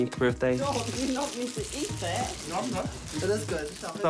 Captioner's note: wrappers rustle